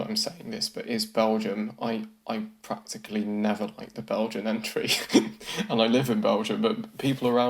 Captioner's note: laughs